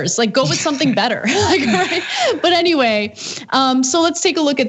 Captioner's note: laugh